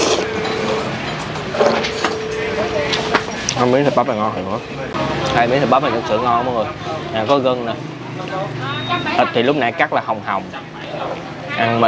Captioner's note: slurping